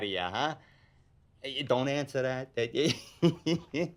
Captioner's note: laughs